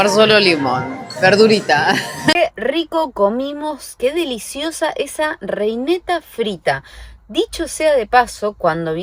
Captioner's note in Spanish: risas